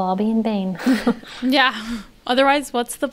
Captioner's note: they laugh